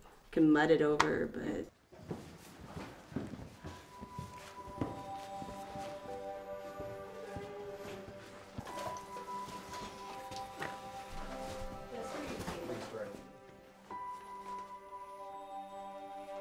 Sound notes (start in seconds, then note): 2.4 footsteps; 11.7 group chatting; 13.8 piano music